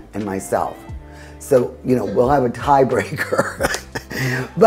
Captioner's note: laughing